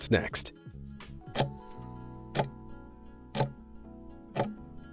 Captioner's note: timer ticking